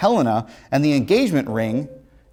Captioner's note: ringing